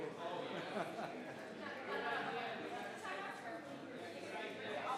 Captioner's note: crowd chattering continues